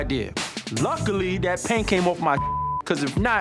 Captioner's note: beep